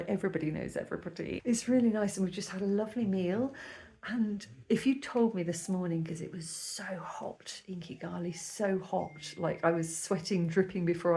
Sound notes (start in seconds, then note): none